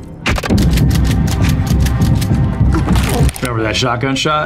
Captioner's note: gun clicking